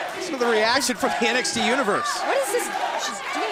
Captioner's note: fans chanting